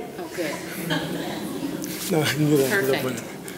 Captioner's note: audience laughing